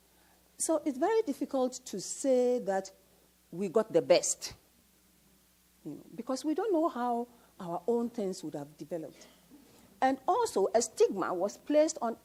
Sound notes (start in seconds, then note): none